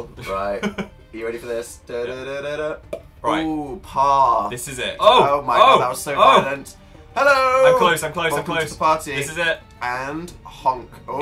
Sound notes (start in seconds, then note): 2.8 pop